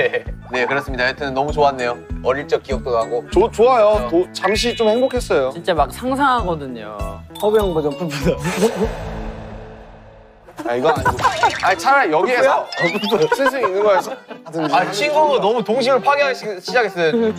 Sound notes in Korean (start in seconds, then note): 12.7 빵 터짐